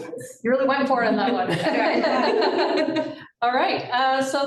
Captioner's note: laughter